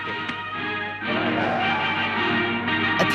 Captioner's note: audience applauds